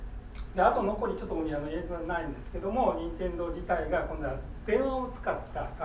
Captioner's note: speaking in foreign language